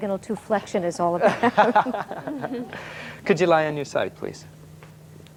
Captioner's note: laughter